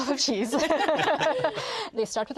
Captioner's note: all laugh